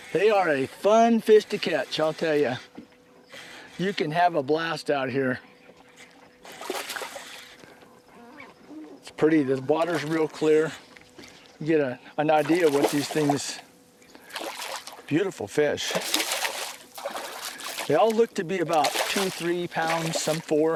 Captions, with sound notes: they are a fun fish to catch I'll tell you you can have a blast out here [splash] it's pretty this water is real clear you will get an idea what these things beautiful fish [splash] they look to be 2..3 pounds some four...